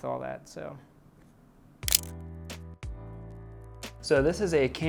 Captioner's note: camera shutter clicks